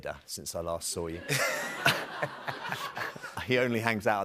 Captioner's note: laughter